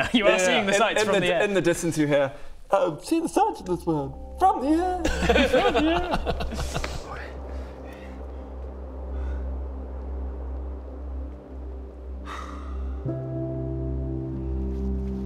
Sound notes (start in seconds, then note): 7.6 peaceful music; 12.0 wistful sigh